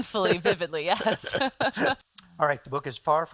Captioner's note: laughter